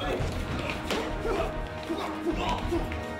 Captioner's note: grunting